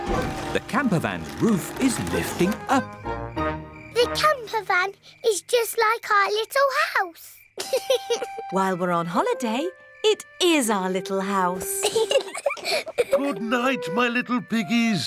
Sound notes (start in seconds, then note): 7.6 george laughs; 11.7 both laugh